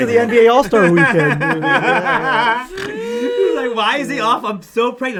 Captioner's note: all laugh